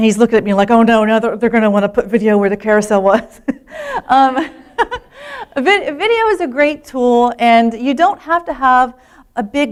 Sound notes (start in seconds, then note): 3.8 laughter